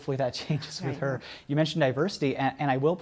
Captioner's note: laughter